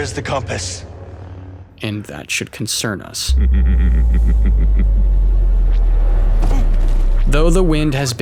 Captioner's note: laughing